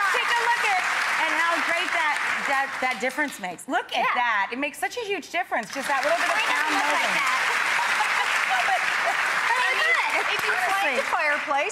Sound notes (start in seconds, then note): 7.3 audience applauding